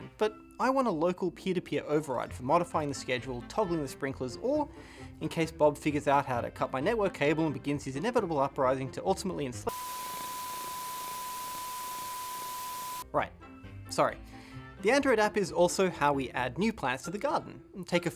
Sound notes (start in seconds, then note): 9.7 beeping; 9.7 static